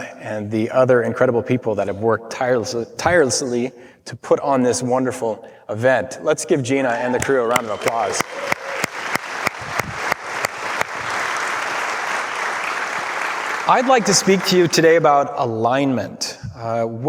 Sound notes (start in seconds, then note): 8.0 clapping; 8.3 crowd applause; 9.2 crowd clapping